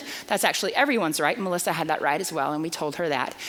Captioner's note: none